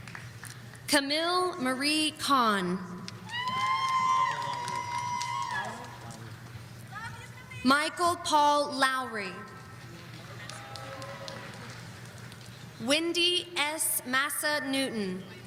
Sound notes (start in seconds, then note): 3.2 audience cheering